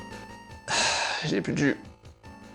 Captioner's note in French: Soupir